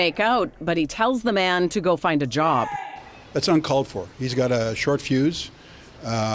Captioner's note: screaming